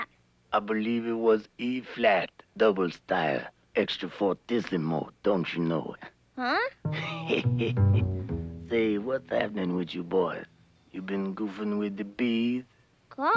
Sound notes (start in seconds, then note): 7.0 laughing